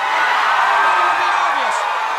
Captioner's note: crowd cheers